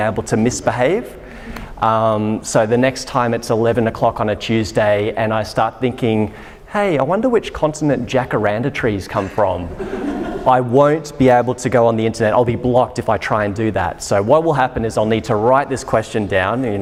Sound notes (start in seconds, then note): 9.6 audience laughter